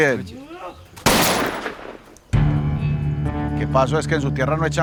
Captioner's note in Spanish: Disparo